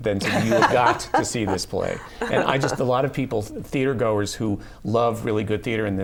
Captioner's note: laughter